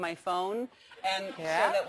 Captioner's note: laugh